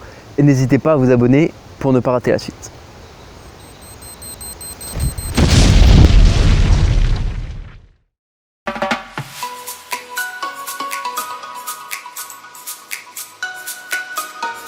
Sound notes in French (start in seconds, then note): 3.4 bip bip bip bip; 4.9 bouuuuum